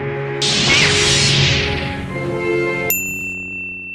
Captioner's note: lightsaber hums